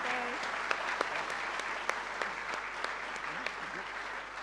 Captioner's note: audience applauding